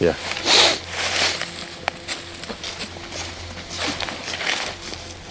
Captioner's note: leaves crunching